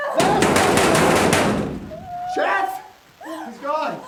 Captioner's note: door banging